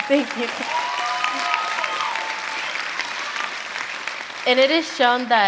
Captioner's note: applause